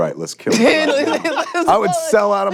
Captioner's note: laughing